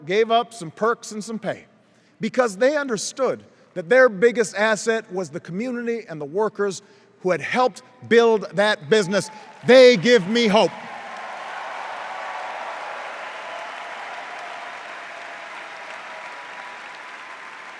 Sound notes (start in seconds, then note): 10.7 cheers and applause